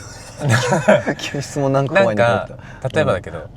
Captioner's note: laughs